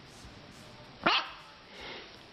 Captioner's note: dog barks